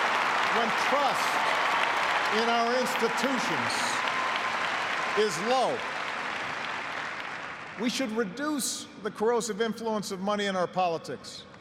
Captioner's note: cheers and applause